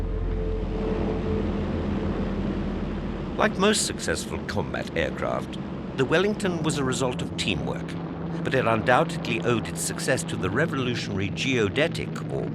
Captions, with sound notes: (plane roaring) Like most successful combat aircraft, the Wellington was a result of teamwork, but it undoubtedly owed its success to the revolutionary geodetic